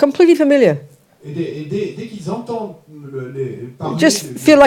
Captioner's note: French